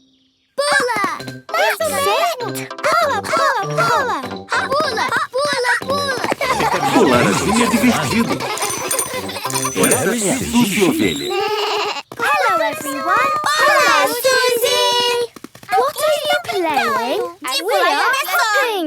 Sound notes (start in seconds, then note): 6.9 bike bell; 11.2 bleating